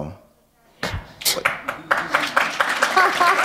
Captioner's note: applause